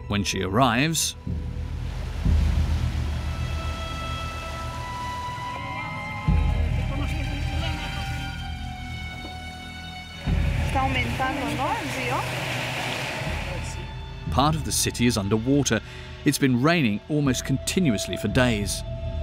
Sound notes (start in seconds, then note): 2.5 mysterious music; 11.2 driver speaking in foreign language